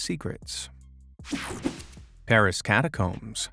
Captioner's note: image whipping effect